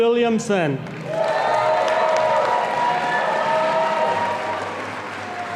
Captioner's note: audience applauding